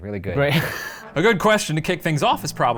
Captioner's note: laughs